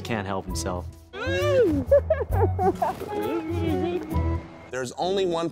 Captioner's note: laughter